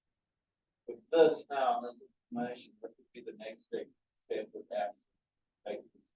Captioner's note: participant faintly speaking